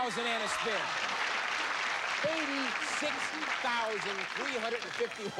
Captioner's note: cheers and applause